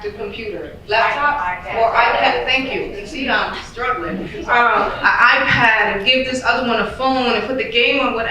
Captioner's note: audience yells suggestions